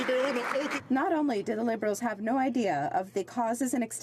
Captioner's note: some Applause